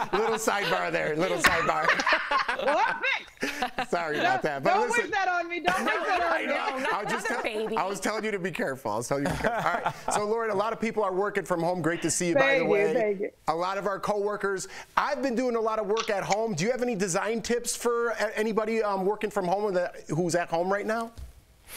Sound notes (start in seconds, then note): 3.5 laughter